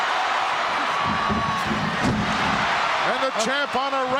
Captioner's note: audience cheering